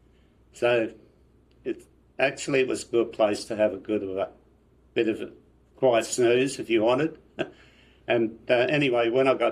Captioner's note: laughs